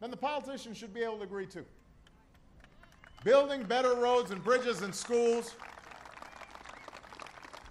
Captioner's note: applause